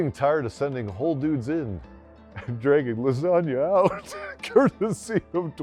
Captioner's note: laughs